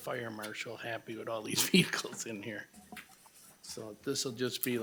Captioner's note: laughs